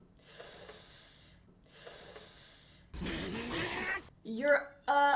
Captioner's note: extended sucking of teeth